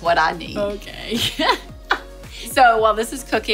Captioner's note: laughs